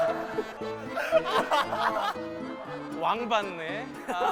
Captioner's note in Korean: 아학하학